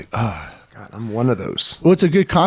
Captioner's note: sighs